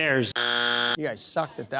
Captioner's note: bzzzzt